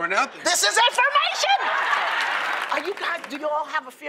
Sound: laughter; applause

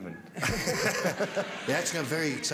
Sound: laughter

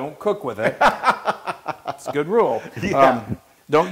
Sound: laugh

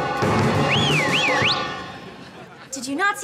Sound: whistles

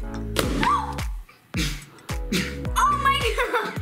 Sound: balloon pop; gasp

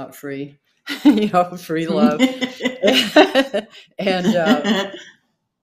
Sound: both laughing

